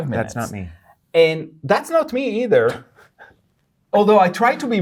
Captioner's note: chuckles